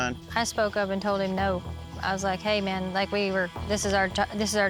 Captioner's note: none